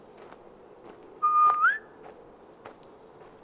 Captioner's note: whistling